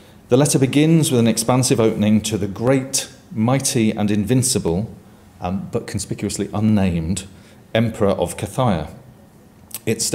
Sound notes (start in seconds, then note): none